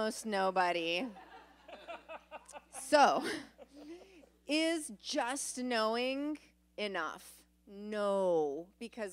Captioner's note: laughter